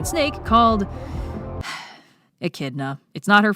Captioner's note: sigh